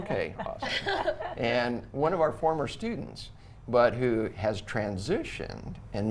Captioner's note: everyone laughs